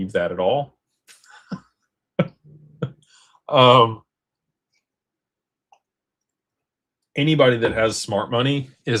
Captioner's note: laughter